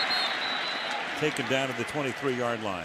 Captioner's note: whistle blows